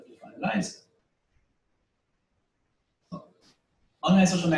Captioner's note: pause